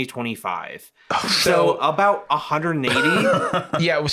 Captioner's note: laughs